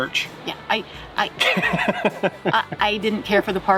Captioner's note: laughing